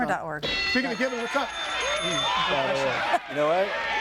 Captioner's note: bell dinging